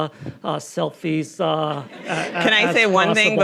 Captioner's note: audience laughing